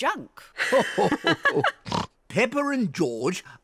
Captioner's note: grandpa and granny laugh